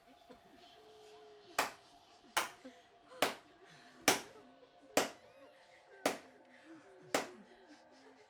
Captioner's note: slow clap